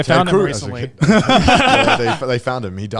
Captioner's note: all laughing